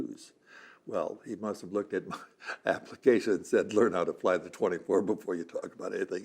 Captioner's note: laughing